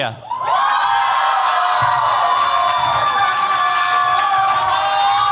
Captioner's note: cheers, applause